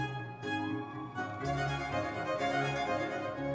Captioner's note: audience members cheering